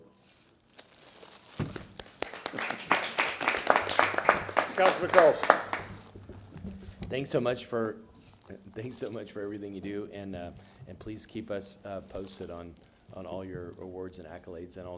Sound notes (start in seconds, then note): 6.1 applause